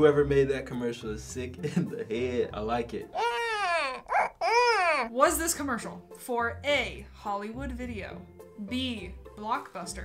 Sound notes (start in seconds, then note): 3.1 cries